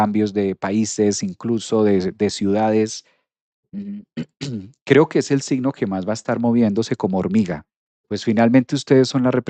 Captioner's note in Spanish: carraspeo